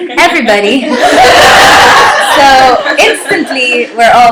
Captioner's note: laughter